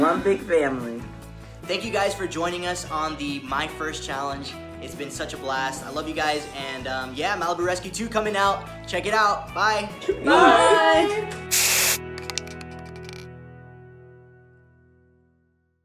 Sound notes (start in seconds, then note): 11.5 spray fizzing